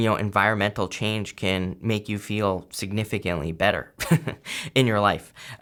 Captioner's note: chuckles